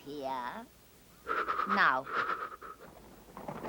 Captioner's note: Edmund shivers